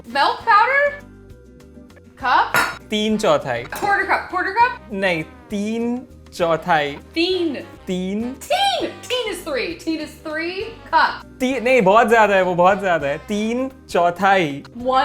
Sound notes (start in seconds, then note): 2.5 cup clanging; 3.3 speaking in Hindi; 8.0 speaking in Hindi, annunciating; 11.6 speaking in Hindi